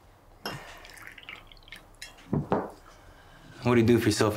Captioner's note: liquor splashing